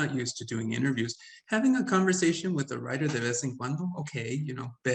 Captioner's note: speaking Spanish